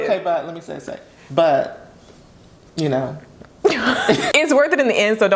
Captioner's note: both laugh